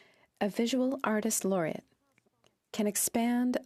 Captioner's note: speaking French